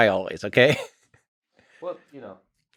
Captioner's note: Tim laughs